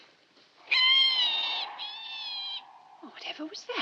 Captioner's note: loud screeching